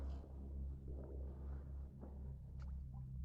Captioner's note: none